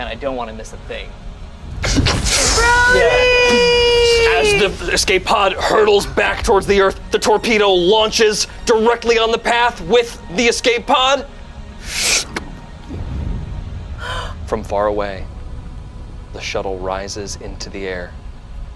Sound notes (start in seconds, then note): 12.8 missile blows